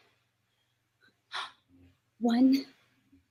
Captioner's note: exhale